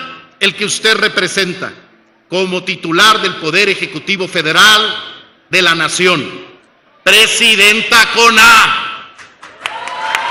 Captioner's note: applause